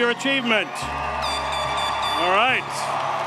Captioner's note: audience cheers